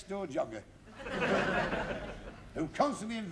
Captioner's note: laughter